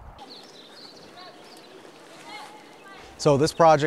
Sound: birds singing; swimmers shouting

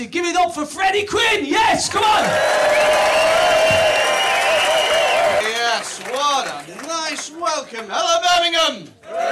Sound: applause

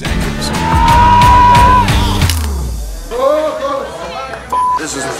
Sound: wrestling noises and swearing

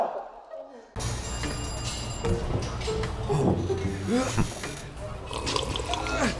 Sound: upbeat music; phone ringing

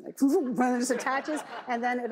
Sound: audience laughs

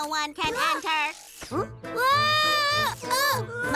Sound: screams

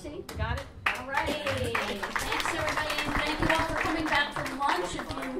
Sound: applause

